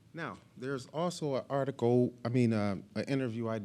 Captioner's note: none